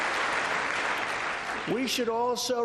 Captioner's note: applause